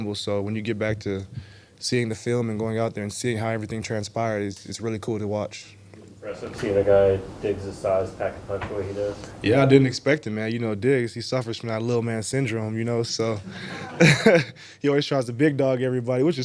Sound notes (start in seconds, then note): 13.4 and audience laughs